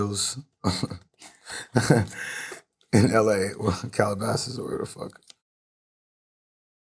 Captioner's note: chuckling